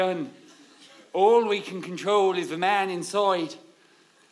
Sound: slipping into an Irish accent

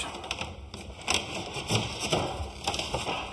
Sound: creaks

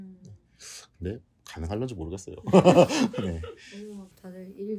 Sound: laughs

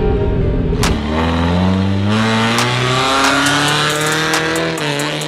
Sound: engine revving

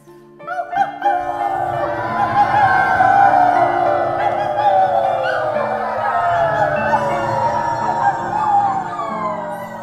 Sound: the band and audience all howl loudly

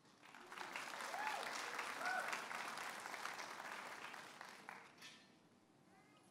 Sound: audience applauding and cheering

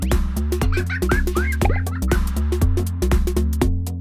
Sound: laughter

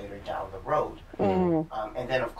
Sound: sounds of agreement

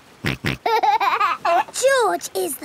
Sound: snorts and laughs

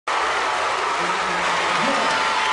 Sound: crowd cheering

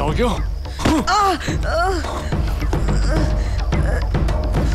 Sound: groans

